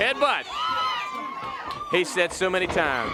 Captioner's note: crowd chatter